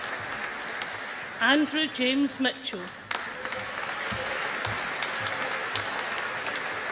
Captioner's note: audience applauding